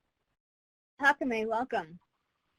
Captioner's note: speaking in foreign language